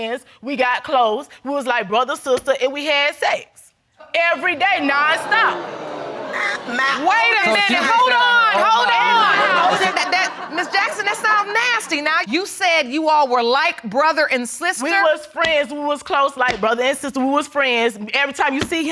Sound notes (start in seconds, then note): 4.5 audience exclaiming; 5.5 stammering